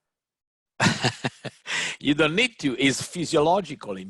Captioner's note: laughs